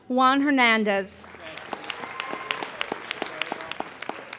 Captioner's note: applauding